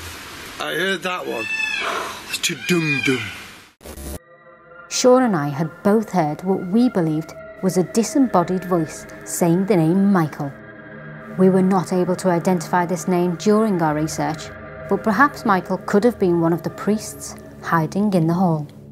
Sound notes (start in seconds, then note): 1.2 peacocks squawking; 2.9 makes drum sounds